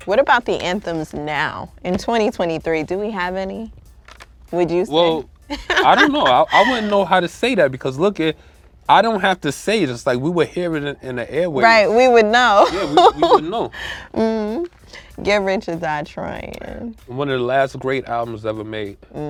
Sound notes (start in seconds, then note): 5.5 laughs; 12.4 laughs